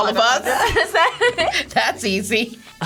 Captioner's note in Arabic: يضحك